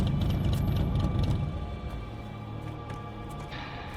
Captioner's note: engine rumbles